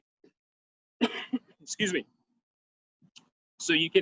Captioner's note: coughs